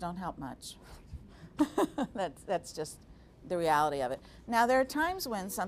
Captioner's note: laughing